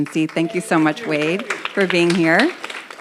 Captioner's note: audience applauds